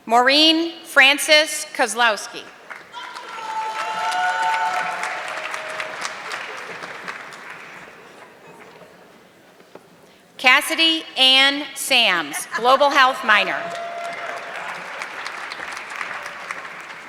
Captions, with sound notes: Maureen Francis Koslowski. (audience clapping) Cassidy Anne Sams, global health minor. (audience clapping)